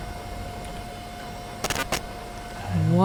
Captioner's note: computer glitch